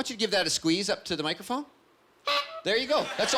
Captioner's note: honking